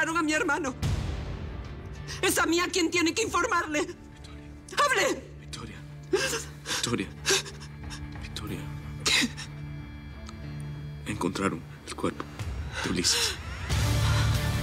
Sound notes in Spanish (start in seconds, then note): 6.0 Solloza; 8.9 Ella solloza